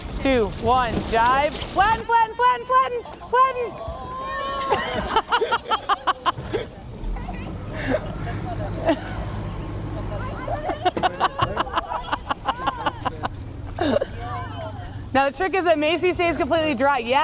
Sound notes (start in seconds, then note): 4.5 laughter